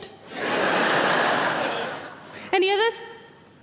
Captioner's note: audience laughing